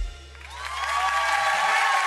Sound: audience applause

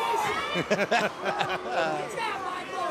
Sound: laughter

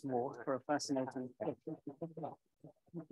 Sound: faintly speaking

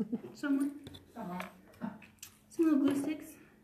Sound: chuckles

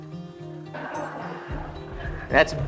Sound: laughter

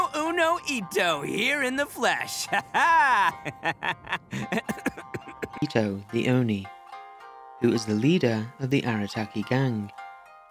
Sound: cough

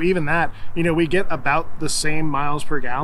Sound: none

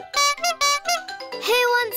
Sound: toots horn

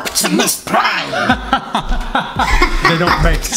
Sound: laughs

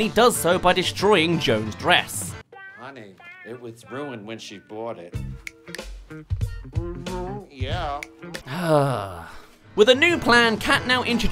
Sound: sigh

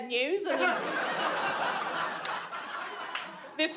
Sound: audience laughs

